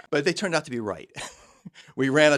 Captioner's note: chuckles